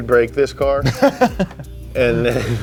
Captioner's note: laughs